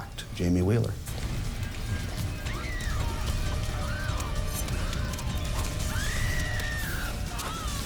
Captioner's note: stirring music; victim screams